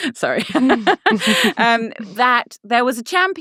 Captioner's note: laughing